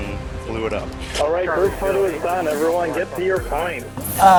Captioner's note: radio chatter